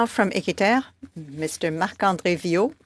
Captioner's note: speaking French